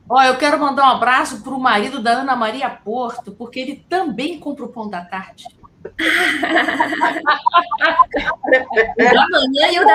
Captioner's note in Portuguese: risadas